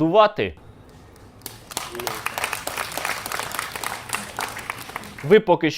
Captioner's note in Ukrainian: оплески